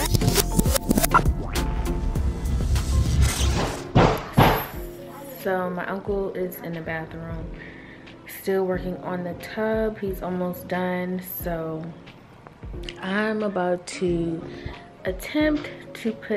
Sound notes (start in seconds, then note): 0.0 video rewinding; 3.6 person hammering